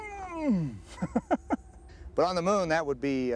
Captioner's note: <i> groaning</i>